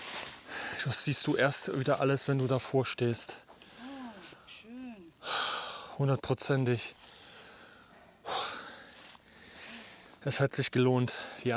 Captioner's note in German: seufzt